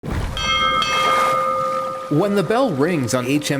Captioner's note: bell rings twice